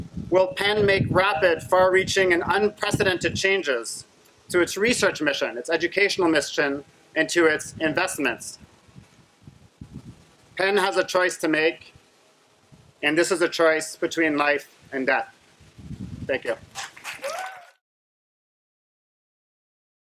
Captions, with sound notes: Will Penn make rapid, far reaching and unprecedented changes to its research mission, its educational mission and to its investments? Penn has a choice to make and this is a choice between life and death. Thank you. (clapping and cheering)